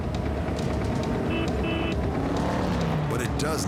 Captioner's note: honking